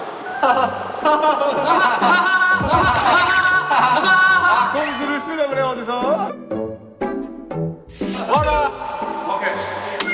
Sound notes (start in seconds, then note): 2.7 hahahaha